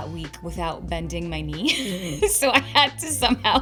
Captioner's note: laughs